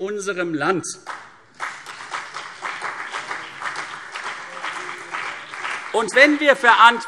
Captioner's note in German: Beifall CDU und BÜNDNIS 90/DIE GRÜNEN